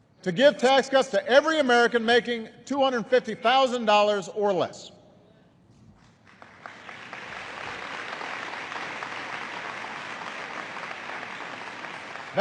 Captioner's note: applause